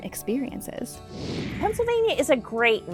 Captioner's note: computer whooshing